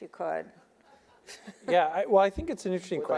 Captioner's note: audience laughing